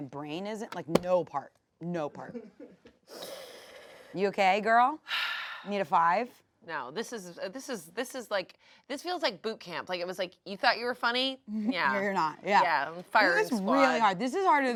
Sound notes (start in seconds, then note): 5.1 sighs